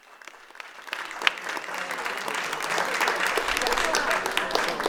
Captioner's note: audience applauding